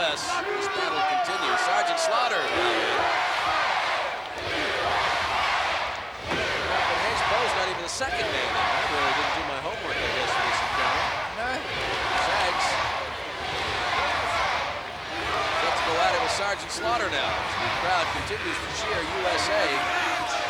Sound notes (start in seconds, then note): 12.2 crowd